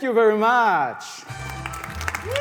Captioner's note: applause; rhythmic clapping